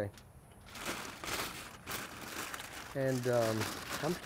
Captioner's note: foil crinkling